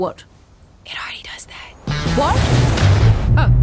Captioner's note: whispering